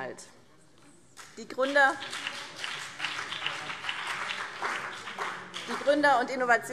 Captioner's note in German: Beifall BÜNDNIS 90/DIE GRÜNEN